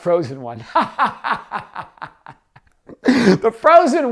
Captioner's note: laughs